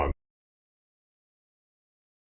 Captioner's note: silence